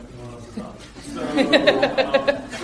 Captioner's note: crowd laughing